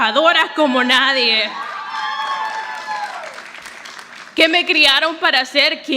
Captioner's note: audience applauding